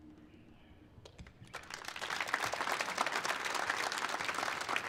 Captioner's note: audience applauds